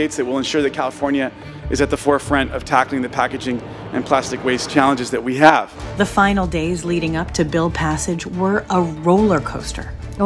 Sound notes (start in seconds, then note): 6.0 voiceover